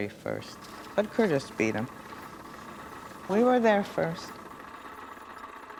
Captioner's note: camera rattling